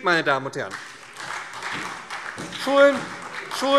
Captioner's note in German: Beifall SPD und DIE LINKE